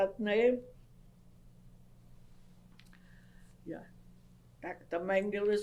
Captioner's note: pauses for 3 seconds